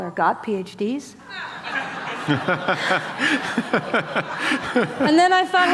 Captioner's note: laughter